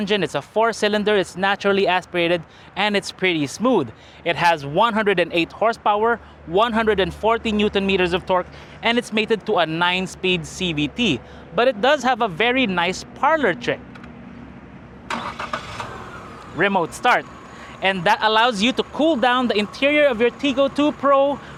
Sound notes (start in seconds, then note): 15.0 engine starts